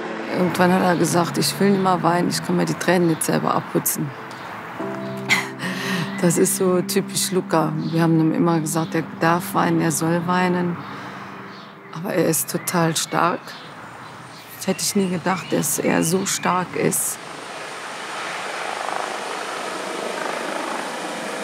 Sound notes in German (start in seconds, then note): 17.2 Geräusche eines Hubschraubers